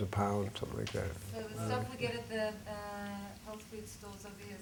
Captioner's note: voiceover